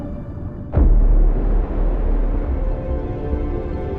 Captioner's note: water splashes